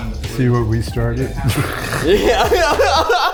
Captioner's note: group chuckles